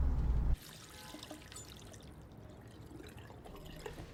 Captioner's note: faucet running